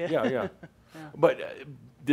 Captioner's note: she chuckles